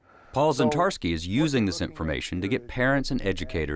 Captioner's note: voiceover